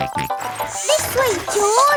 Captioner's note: george snorts